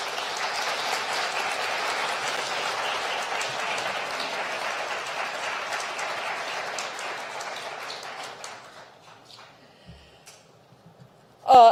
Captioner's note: applause